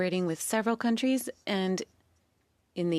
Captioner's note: speaking French